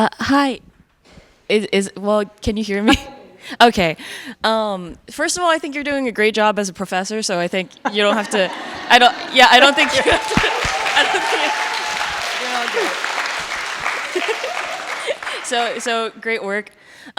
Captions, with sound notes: - Hi, well, can you hear me? Okay, first of all, I think you're doing a great job as a professor, so I think you don't have to, I don't think you're good. (audience applauding) (audience cheering) So great work.